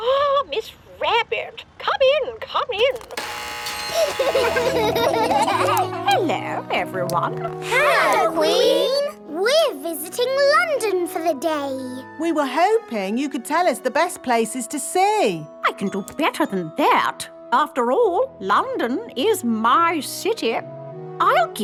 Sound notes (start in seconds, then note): 3.0 gates buzzing; 3.8 kids laughing